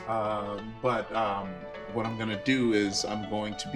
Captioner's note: none